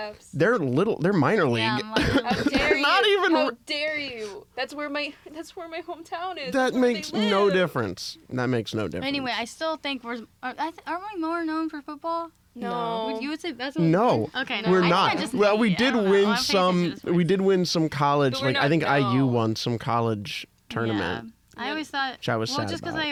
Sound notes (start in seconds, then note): 1.6 laughs